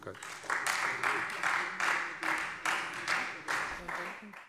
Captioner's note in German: Beifall Freie Demokraten